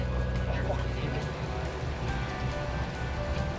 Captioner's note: crew chatting